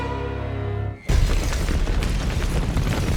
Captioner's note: explosions